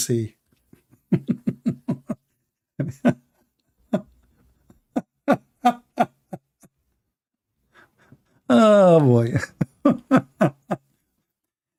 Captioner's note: Gelak ketawa